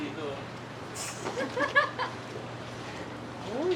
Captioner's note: laughter